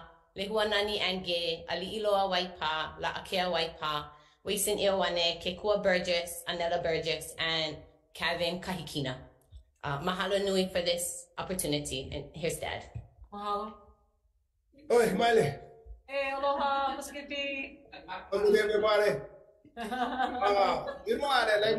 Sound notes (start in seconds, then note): 14.9 speaking Ōlelo Hawai'i